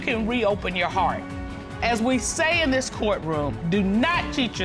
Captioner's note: none